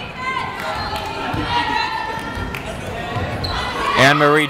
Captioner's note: yelling